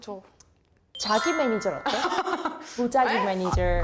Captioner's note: awkward abbreviation sound effect